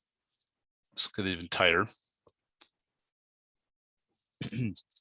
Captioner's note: clears throat